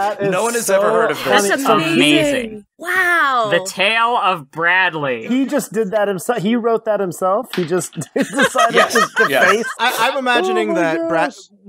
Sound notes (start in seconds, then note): 7.6 through laughter; 8.1 laughs